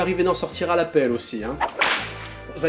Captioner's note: whip noise